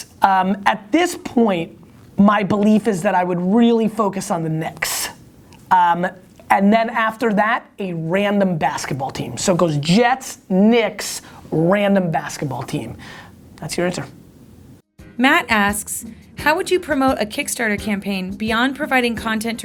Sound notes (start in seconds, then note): 14.9 voiceover